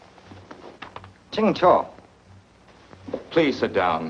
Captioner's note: speaks foreign language